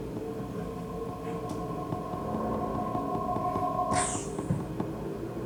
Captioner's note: space ship approaches